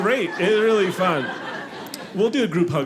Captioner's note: audience laughing